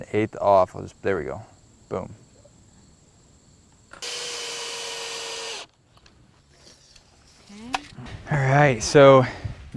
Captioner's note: drill whirring, no additional audio